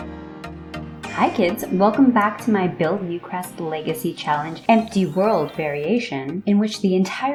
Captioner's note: 5 seconds of intro music; chime SFX